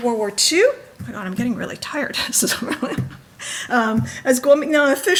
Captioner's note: laughs